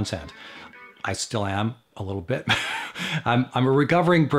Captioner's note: chuckles